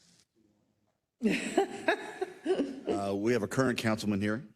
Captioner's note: laugh